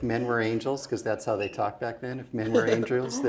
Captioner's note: laugh